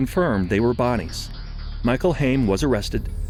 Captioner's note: whoosh